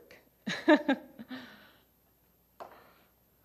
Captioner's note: laughing